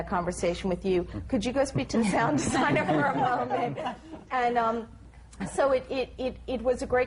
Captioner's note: laughter